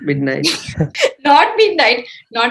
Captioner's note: laughs